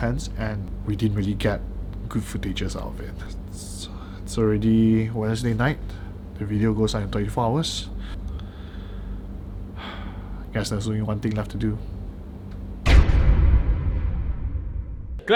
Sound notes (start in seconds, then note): 9.7 heavy sighs